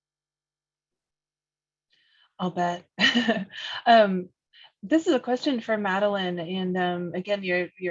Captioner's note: laughter